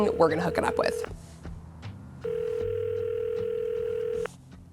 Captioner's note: phone ringing